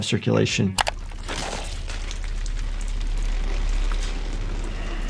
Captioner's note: blood splattering